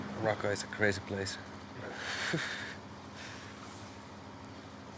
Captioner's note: laughs sardonically